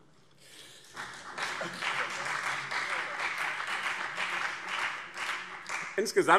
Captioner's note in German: Beifall BÜNDNIS 90/DIE GRÜNEN und CDU